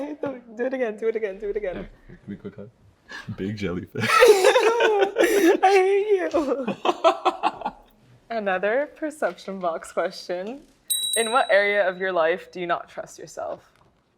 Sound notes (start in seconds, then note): 4.0 both laughing; 6.9 laughs; 10.9 bell chimes